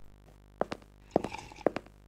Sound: sipping

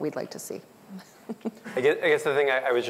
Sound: laughs

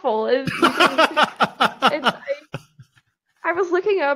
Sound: laughing

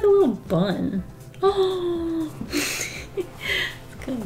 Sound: gasps then laughs

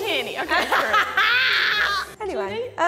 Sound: woman 2 laughing hysterically

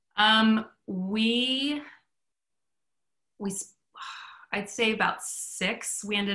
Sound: exhales

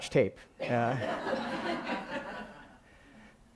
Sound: laughing

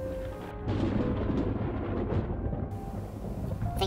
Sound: thunder

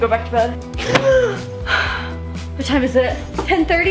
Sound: deep loud gasp

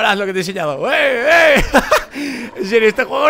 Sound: laughs

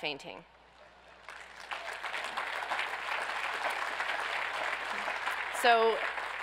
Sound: audience applauds

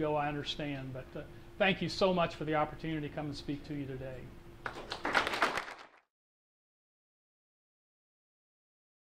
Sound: applause

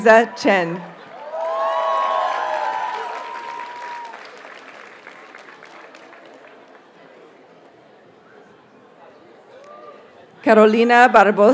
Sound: audience cheers and applauds

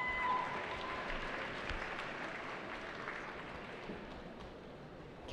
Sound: cheering

